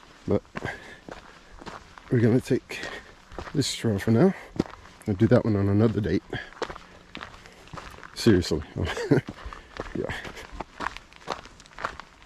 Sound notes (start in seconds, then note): 8.7 laughter